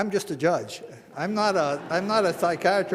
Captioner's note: audience laughing